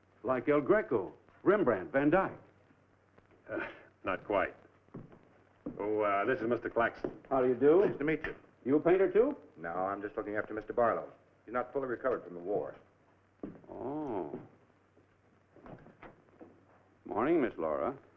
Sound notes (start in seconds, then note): none